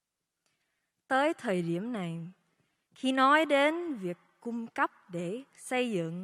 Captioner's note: speaking foreign language